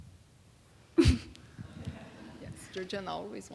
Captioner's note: laughing